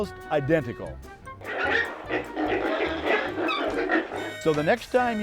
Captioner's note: sounds of pigs